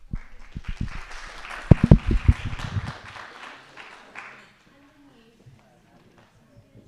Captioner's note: audience clapping